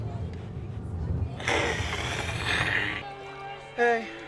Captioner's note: ABED hisses